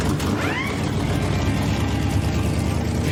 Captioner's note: engine starts; drill whirs